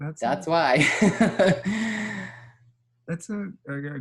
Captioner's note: laughs